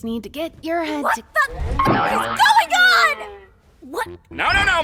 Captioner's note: boing!